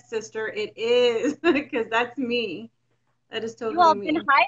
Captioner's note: giggles